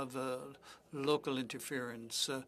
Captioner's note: speaking French